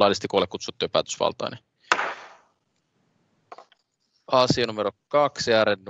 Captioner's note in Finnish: nuijan kopautus